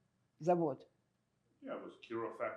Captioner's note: russian